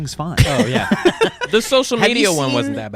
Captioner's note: laughing